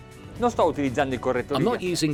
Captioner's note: speaking foreign language